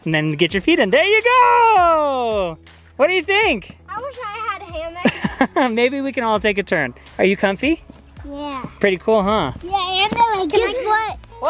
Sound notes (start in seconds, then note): 5.0 laughs